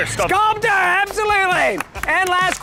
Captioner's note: participants clapping